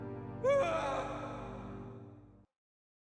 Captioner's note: screams